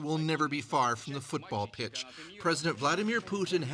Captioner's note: speaking russian